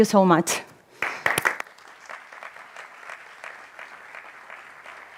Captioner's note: audience applauding